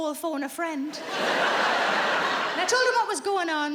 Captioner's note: audience laughing